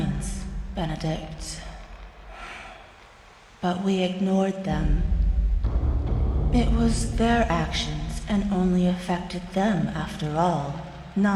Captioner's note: sigh